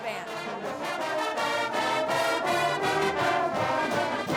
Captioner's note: loud horns